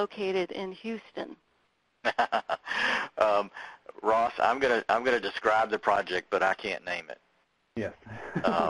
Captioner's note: laughing